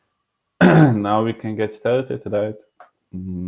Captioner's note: clearing throat